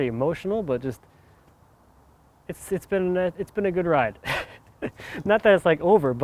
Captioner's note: laughs